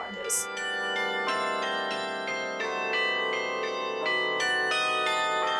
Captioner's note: bells chiming